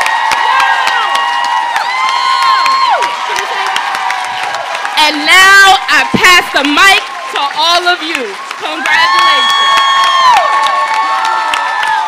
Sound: cheers and applause

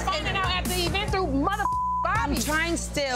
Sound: beep

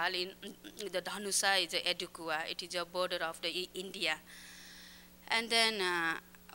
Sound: non-english speech

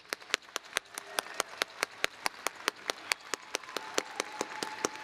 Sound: applause

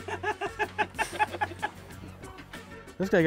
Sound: laughter

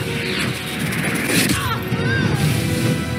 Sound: yells

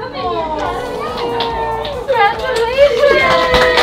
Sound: crying; crowd; crowd applauds

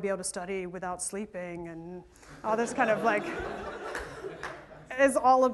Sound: laughter

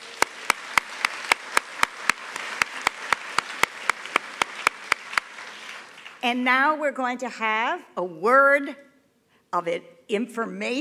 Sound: applause

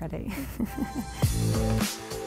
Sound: chuckles; upbeat music

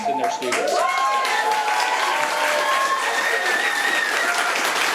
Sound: audience applauding

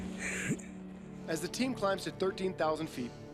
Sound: voiceover

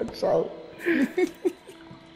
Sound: laughs

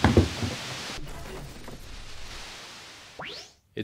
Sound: more static, transmission ends abruptly

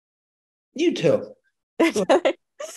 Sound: giggles

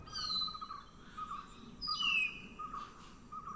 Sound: birds chirping

